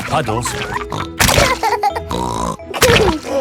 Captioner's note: laughs and snorts